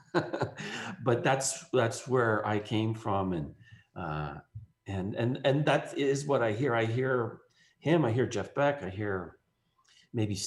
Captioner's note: laughs